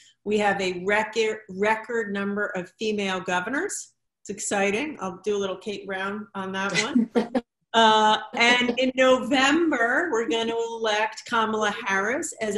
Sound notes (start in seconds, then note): 6.8 everyone laughing